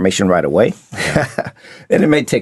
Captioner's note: laughing